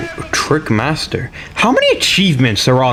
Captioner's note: inhales Oxygen